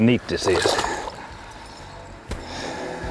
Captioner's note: splash